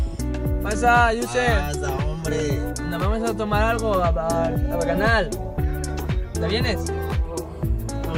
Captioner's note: foreign language 00:33:02